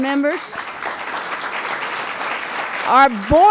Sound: applause

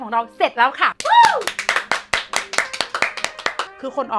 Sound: claps loudly

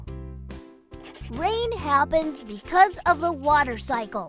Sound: Bailey scribbles in his journal

